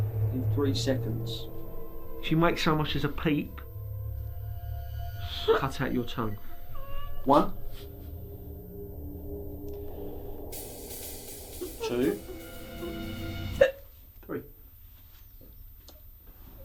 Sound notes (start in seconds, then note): 12.5 muffled crying